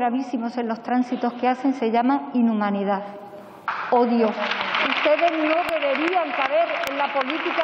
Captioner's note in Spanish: Aplausos